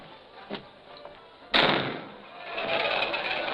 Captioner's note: door thuds